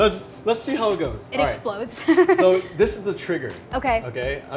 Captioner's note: laughs